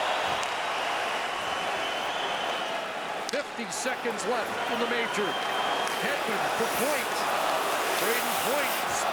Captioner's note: cheering and Applause